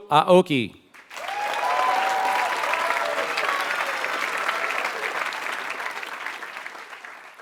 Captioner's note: applause